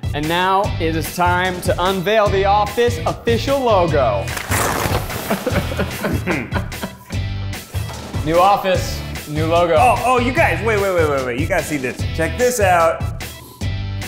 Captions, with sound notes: And now it is time to unveil the office official logo (laughs) New office. New logo. - Oh, you guys. Wait, wait, wait, wait, wait. You gotta see this. Check this out.